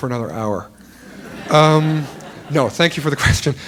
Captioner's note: laughter